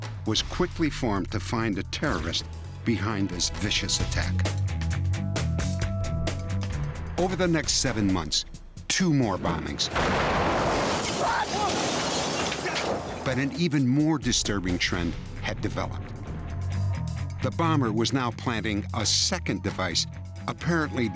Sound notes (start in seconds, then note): 9.4 explosion